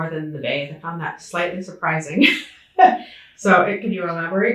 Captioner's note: laughing